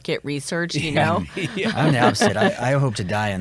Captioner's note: laughs